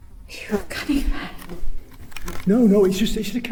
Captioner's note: sniff; whispers